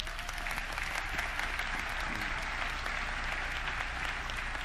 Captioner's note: audience clapping